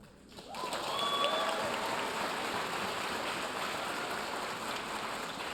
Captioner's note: audience cheering and applauding